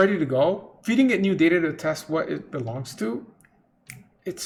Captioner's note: snaps fingers